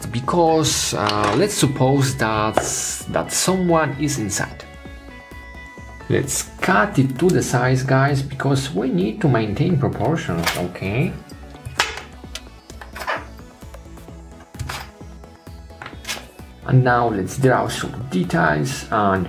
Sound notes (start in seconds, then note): none